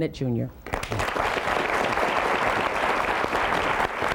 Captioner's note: applause